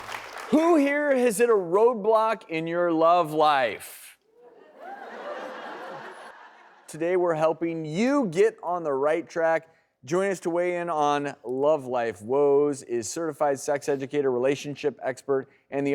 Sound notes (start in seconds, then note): 4.4 laughter